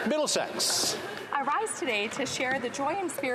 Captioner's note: applause